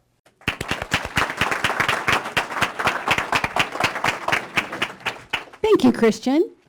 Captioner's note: applause